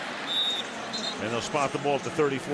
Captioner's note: whistle